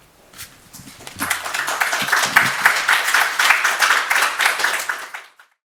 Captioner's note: audience applauding